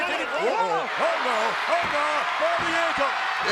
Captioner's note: audience cheers